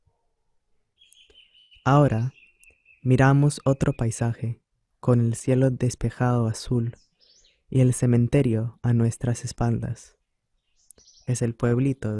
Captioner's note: VOICE-OVER in Spanish